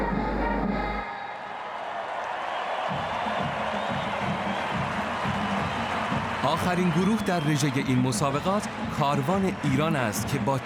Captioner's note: cheers